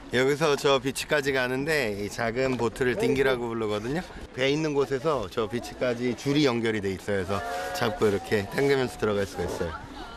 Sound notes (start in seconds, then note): none